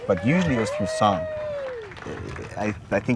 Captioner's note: group applauding